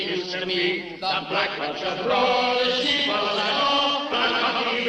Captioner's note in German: hallend